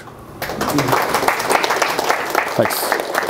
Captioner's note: audience applauding